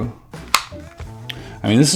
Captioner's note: buttons clicking